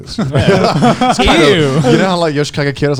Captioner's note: all laughing